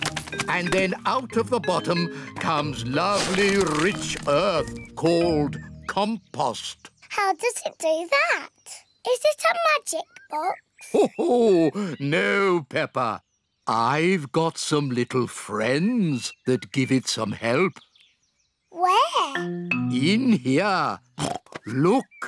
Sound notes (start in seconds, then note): 10.8 laughs; 21.2 oinks